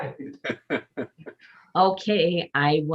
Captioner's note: members laughing